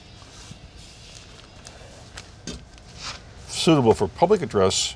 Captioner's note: rustling papers